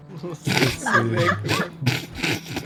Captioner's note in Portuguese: Risadas